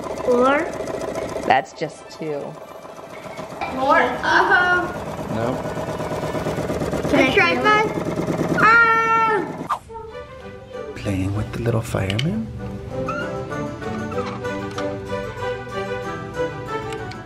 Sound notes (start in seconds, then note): 1.8 rattling; 12.5 upbeat orchestral music